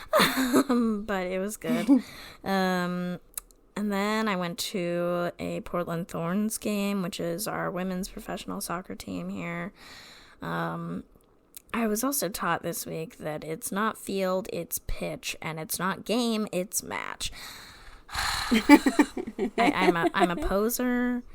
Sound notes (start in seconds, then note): 1.7 laughs; 18.1 dramatic sigh; 18.4 laughs